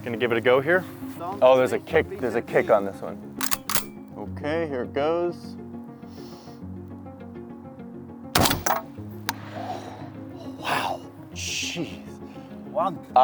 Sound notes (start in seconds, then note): 3.4 gun cocks; 8.3 gun fires